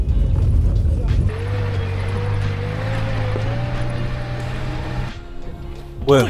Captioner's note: the engine sounds like it’s struggling